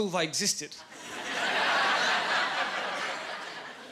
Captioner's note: laughing